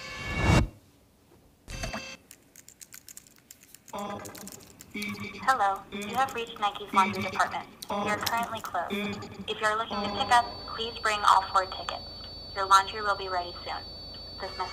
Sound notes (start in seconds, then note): 1.7 keyboard tapping